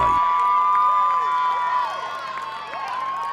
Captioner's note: cheering